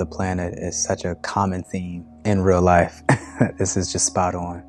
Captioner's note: chuckles